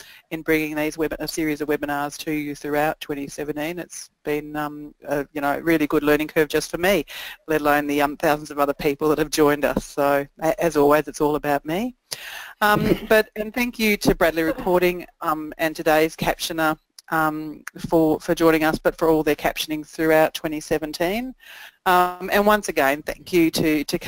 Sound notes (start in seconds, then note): 12.7 laughter